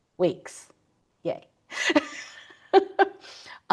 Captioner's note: laughs